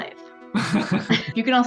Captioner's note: laughing